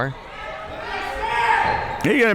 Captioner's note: crowd members shouting